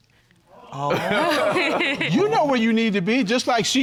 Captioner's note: all laughing